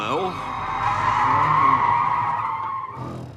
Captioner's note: tyres screeching